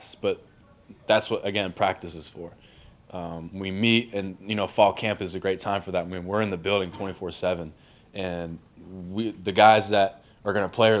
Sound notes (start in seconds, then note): none